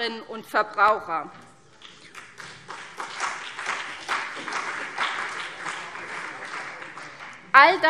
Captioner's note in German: Beifall CDU und BÜNDNIS 90/DIE GRÜNEN